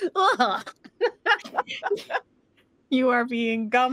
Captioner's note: laughs